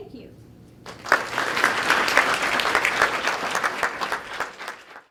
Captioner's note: clapping